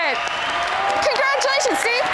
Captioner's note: huge crowd applause